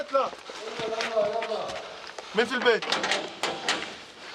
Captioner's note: Arabic spoken audio